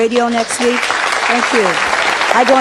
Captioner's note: audience applauding